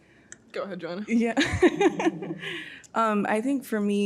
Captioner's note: laughing